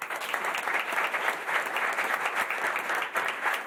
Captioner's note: applause